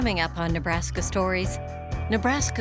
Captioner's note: voiceover